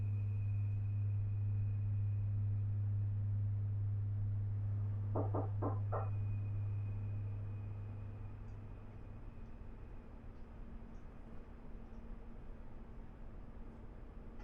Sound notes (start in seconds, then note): 5.1 door nocks